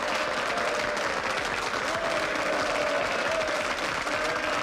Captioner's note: cheering